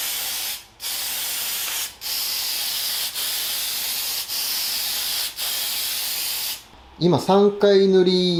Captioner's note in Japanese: 塗装音